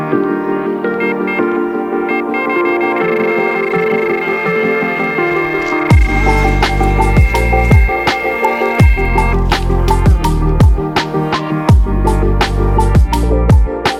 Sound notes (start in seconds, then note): 1.1 rod beeping; 6.0 chill hiphop